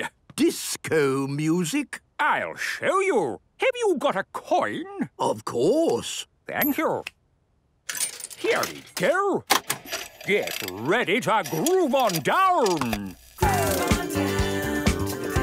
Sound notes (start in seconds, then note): 9.5 clicks, whirring; 13.4 disco music plays